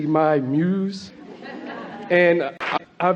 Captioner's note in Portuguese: A platéia ri